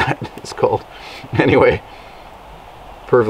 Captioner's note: chuckles